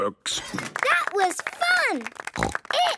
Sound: applause

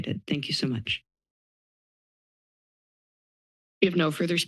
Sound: silence

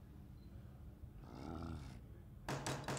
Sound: grunt

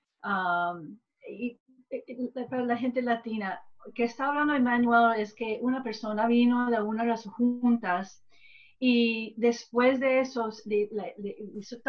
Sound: gives summarization in spanish

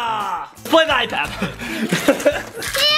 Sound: babbling

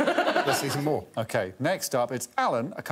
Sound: all laughing

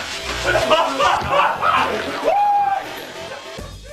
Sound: laughing

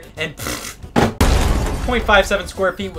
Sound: explosion effect

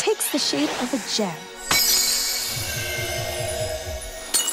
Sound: sparkling tone

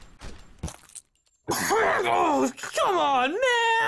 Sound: cough, groan

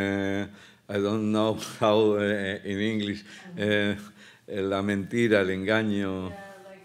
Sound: speaking Spanish

